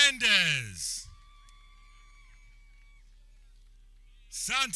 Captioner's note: people cheering